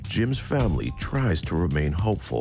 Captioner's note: thumping